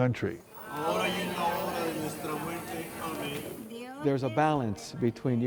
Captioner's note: praying in foreign language